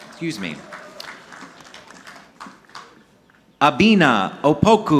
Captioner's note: audience clapping